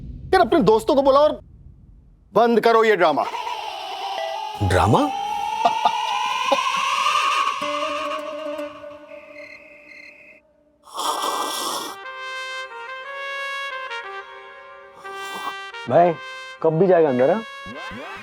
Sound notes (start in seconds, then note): 4.6 laughing; 10.8 slurping